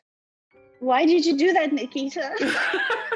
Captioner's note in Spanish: risas